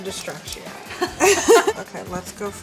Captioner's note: laughing